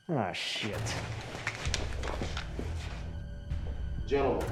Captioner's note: guns click